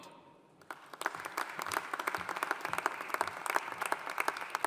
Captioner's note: audience applauding